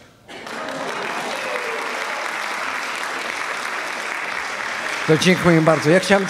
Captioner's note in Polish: oklaski